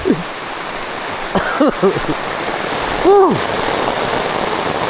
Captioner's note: coughing